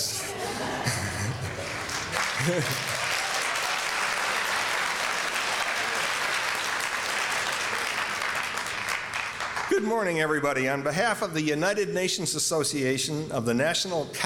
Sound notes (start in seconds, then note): 0.1 laughter; 1.0 applause